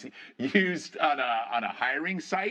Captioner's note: laughter